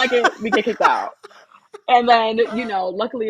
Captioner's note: laughter